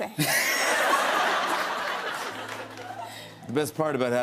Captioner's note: laughter